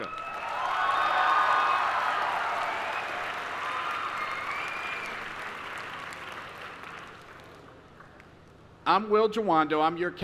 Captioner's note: applause